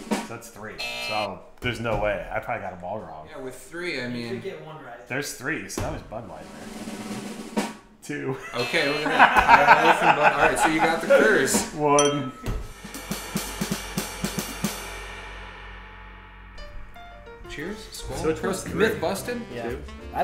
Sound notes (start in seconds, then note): 5.8 drum roll; 8.3 laughing; 8.5 buzzer; 9.1 drum roll; 11.9 ding